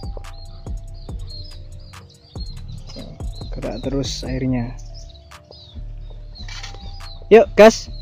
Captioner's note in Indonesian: Kicau Burung Lur